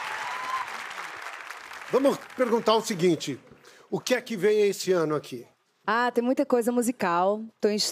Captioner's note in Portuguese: aplausos